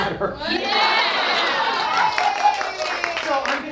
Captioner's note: audience cheering